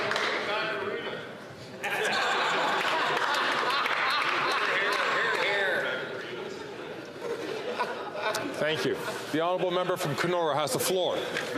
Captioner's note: some Applause